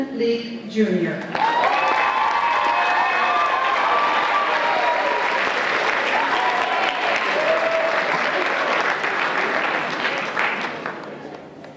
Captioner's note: applause and Cheers